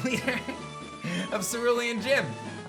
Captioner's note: laughs